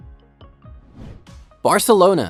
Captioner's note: bright music continues; air whooshing